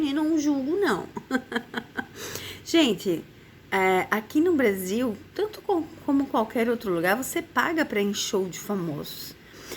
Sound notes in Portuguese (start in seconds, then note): 1.1 risadas